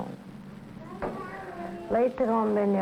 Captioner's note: children's voices in background